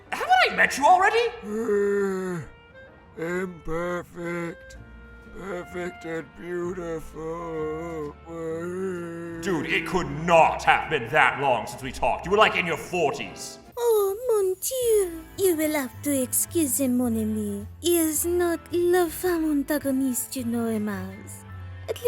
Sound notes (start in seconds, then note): 8.2 geriatric moaning